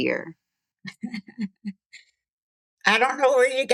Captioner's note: laughter